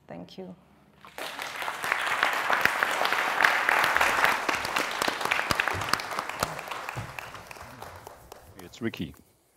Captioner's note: applause